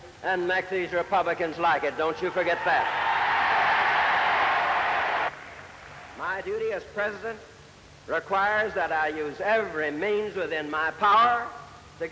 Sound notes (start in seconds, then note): 6.1 cheering and applause